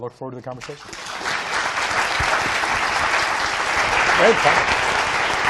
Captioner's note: audience applauding